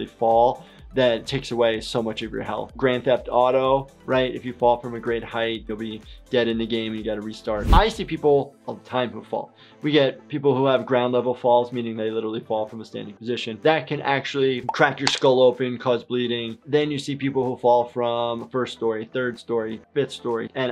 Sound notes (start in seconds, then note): 7.6 air whooshes